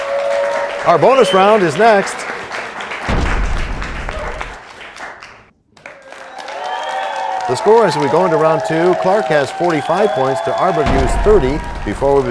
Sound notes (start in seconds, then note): 0.0 applause; 3.1 crashing sound; 5.7 applause